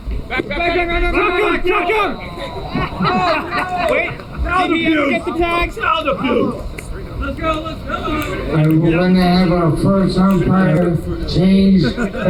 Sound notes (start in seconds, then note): 5.9 in-field chatter